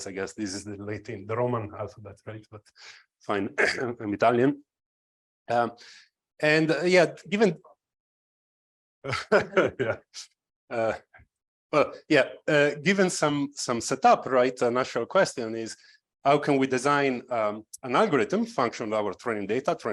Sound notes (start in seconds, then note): 9.1 laughs